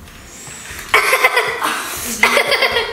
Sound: laughs

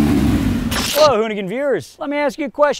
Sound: static

